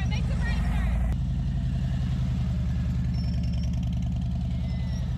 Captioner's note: motorcycle whirring; motorcycle drowning out instructor